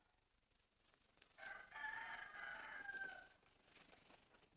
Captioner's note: rooster Crows